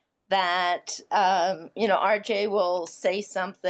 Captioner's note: none